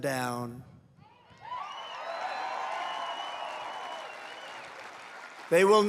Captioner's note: applause